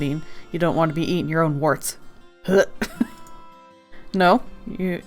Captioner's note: fake gag sound